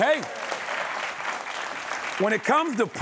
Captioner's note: applause